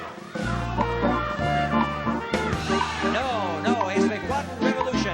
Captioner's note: cheering